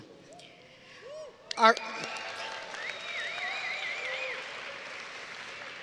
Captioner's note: audience cheering and applauding